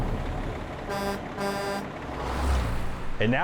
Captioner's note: truck horn